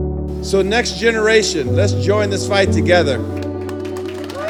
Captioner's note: applause